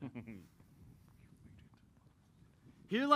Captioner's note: whispers